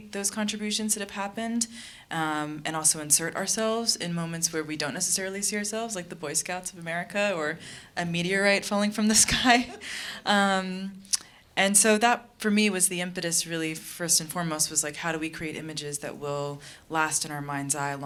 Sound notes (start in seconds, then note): 9.2 laughing